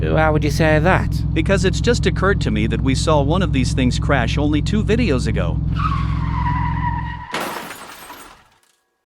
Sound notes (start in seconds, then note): 5.6 brakes squeal, impact; 7.3 shattered glass